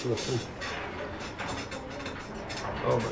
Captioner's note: table Creaks